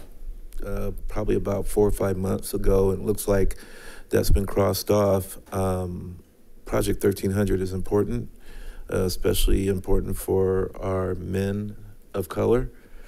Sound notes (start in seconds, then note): none